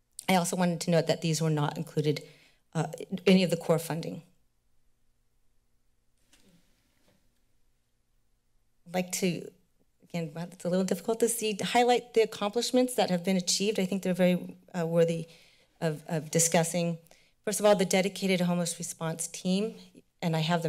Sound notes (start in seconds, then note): 4.4 silence